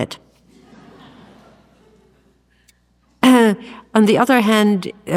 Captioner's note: audience laughs